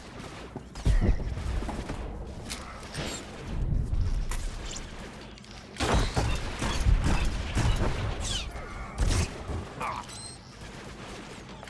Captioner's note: gunshots